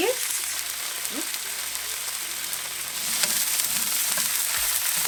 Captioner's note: pan sizzling